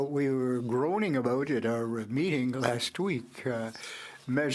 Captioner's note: speaking French